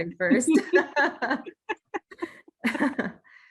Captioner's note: laughs